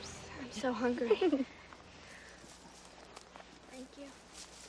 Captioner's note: Mandy chuckles